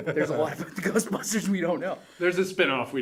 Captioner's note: laughs